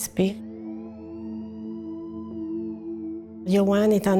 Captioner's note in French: sirènes